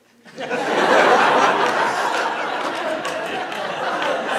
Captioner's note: audience laughing